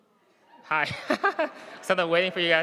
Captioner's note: laughs